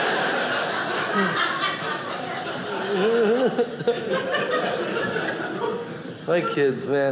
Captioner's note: audience laughing